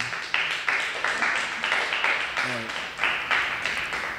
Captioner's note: crowd clapping